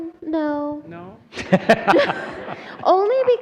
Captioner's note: laughter